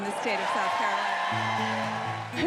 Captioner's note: cheering and applause